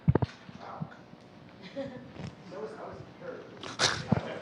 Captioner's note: speaking off microphone